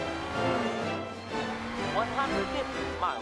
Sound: engines revving; fun music

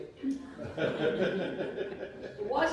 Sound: laughter

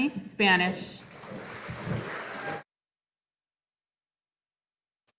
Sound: audience applauding

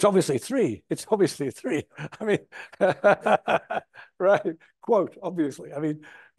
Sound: laughs

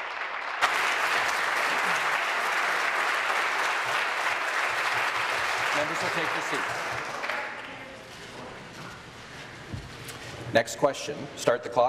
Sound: applause

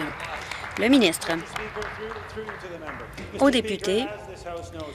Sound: applause

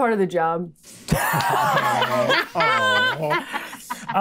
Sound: players laughing

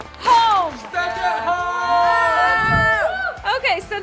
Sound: cheering

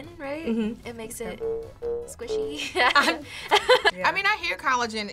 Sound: both laugh

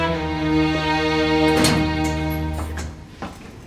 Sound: door opens

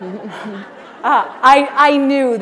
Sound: laughter

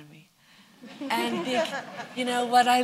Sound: laughter

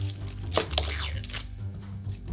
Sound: shallot paper rustling

